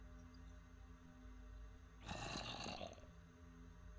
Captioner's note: zombie moans